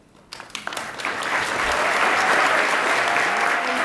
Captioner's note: attendees applaud and cheer